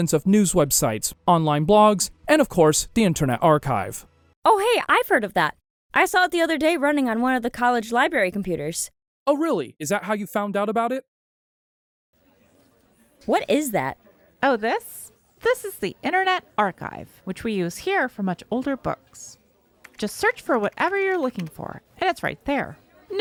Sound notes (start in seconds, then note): 12.4 library ambience noise